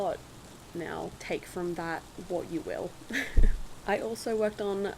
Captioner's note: laugh